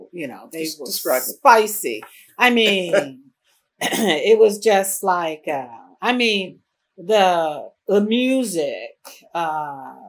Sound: laughter

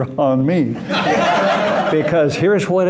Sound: laughter

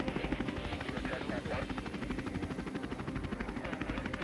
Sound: helicopter blades turning rapidly

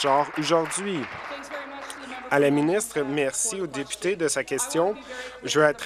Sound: applause

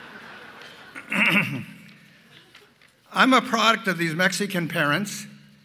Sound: laughter

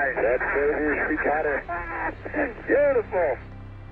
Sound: astronauts laughing

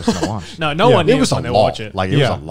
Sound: chuckles

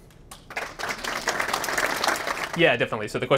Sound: applause

